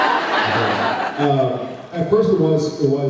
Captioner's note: laughs